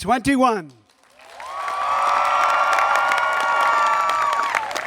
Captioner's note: people cheering